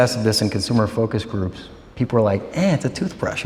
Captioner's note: none